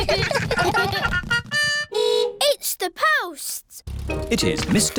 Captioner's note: giggling; horn beeps